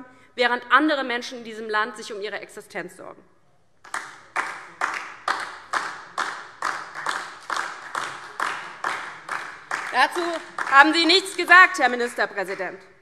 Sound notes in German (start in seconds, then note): 3.8 Beifall DIE LINKE und vereinzelt SPD